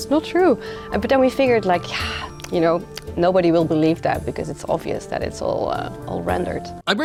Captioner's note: sighs